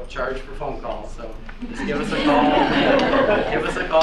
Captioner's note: students laugh